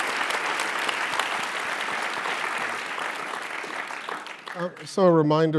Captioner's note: applause